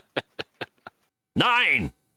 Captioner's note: laughing